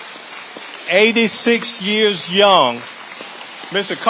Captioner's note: audience applauding